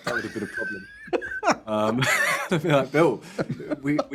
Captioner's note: laughing